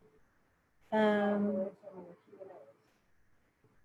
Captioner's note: murmurs